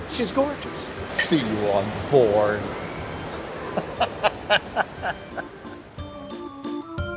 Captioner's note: laughs